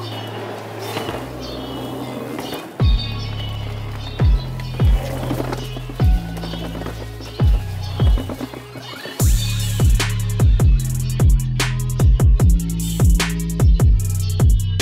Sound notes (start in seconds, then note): 5.4 rubber bouncing; 10.2 hip hop music